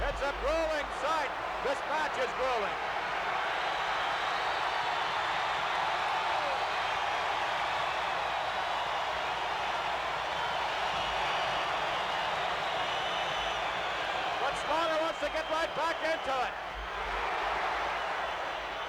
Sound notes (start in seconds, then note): 4.8 crowd cheers